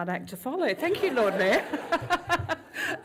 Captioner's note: lAUGHS